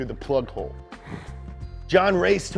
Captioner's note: chuckles